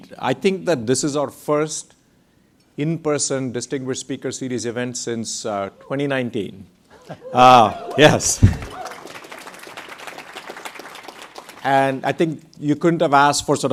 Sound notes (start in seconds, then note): 7.6 audience applauds